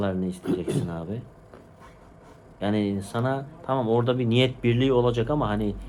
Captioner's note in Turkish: boğazını temizler